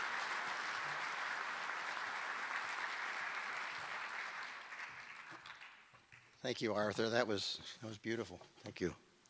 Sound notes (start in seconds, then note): 0.0 applause